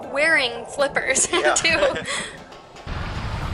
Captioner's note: laughter